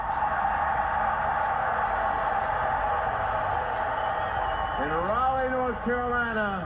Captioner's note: crowd cheering